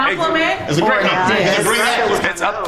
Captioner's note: overlapping chatter